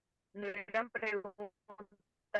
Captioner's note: speaking in foreign language